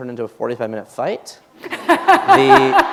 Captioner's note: laughter